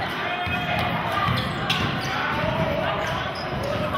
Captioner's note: yelling